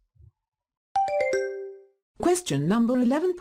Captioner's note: question ding